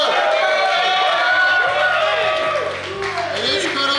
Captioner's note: cheering & Clapping